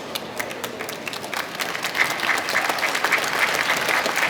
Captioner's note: clapping